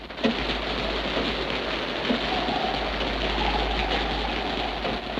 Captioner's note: rain splatters